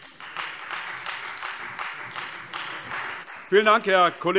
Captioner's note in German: Beifall Freie Demokraten